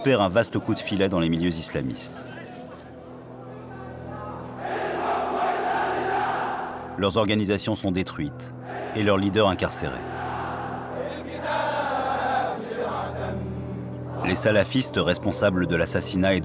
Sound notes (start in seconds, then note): 4.5 crowd in court; 10.1 song